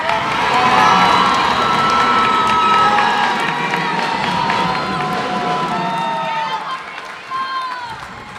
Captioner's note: cheers and applause